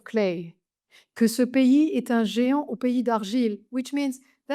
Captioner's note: speaks French